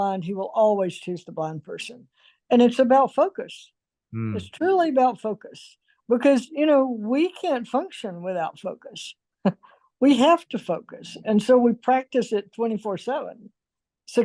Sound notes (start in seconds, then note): 9.3 chuckles